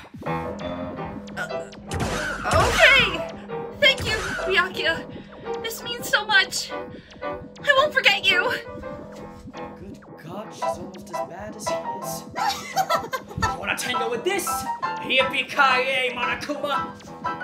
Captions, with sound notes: KOMARU O-Okay! Thank you Byakuya! This means so much! I won’t forget you! BYAKUYA Good god, she’s almost as bad as he is. *Offscreen Monokuma laughing* You want to tango with this?! Yippee ki-yay, Monokuma!